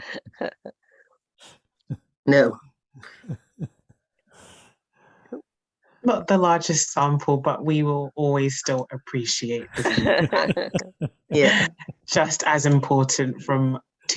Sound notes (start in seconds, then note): 0.0 laughs; 9.7 laughter